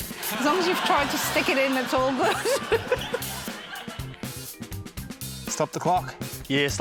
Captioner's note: laughter; laughs